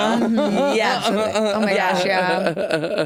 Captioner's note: Jinkx laughing